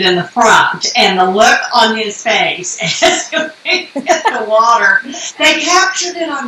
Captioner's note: laughing